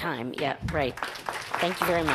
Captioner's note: audience applauds